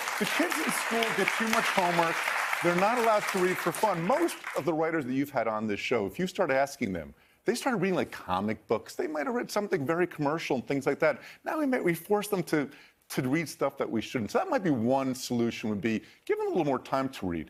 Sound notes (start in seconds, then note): 5.5 applause